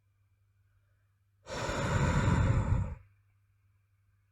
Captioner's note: sigh